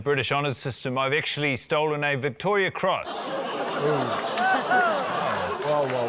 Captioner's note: laughter